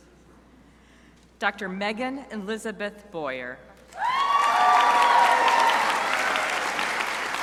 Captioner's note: crowd cheering